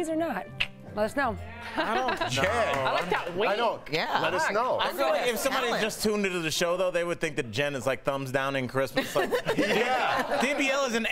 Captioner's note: laughter